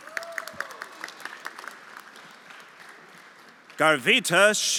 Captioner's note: everyone applauding